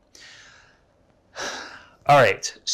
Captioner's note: sighs